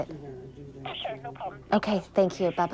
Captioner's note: on phone